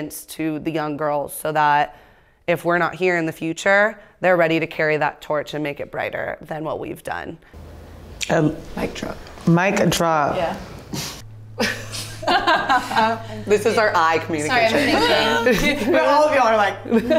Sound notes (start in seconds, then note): 11.6 chuckling; 16.8 laughing